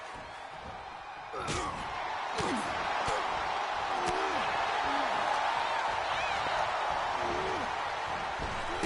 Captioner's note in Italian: urlo